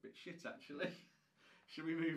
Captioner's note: laughing